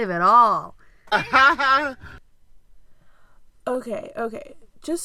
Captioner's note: laughter